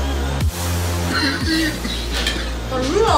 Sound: coughing

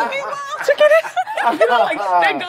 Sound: group laughs

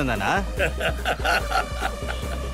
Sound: laughs

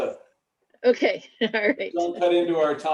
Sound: laughter

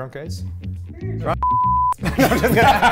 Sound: beep

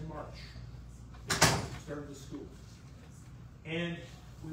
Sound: door closes

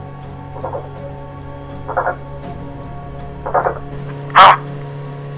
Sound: bird Sounds

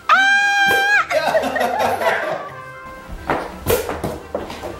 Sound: screams jokingly

